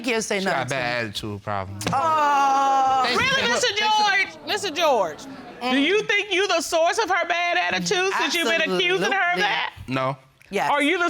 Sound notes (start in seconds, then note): 2.5 sarcastically